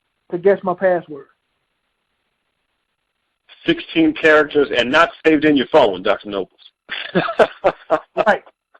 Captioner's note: chuckling